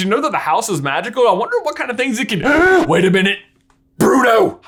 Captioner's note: gasps